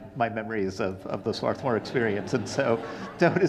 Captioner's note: audience laughing